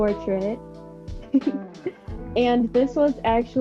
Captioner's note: laughs